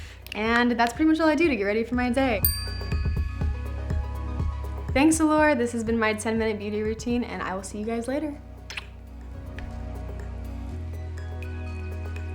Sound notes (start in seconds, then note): 2.4 bell chimes; 8.6 blows kiss